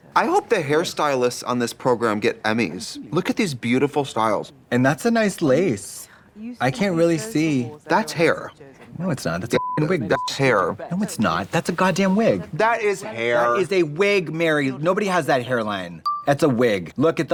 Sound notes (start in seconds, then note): 9.5 beep